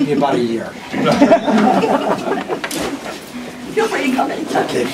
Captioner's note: laughter